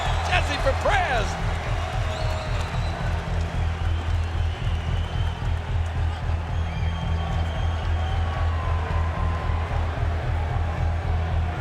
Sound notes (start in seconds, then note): 2.4 dramatic music; 2.7 crowd cheering